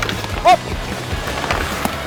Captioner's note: indistinct chatter